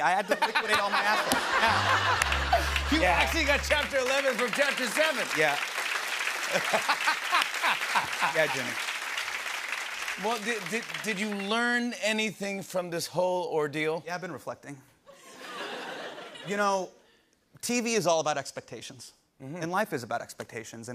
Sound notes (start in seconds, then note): 1.6 sad tuba plays; 6.5 laughs